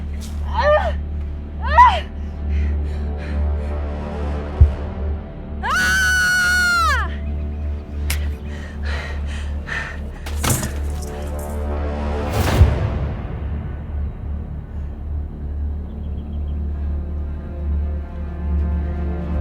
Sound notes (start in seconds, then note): 0.0 dramatic music; 5.6 screams; 7.7 dramatic music